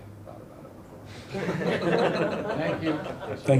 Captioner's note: people laughing